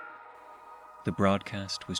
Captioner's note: EAS Tone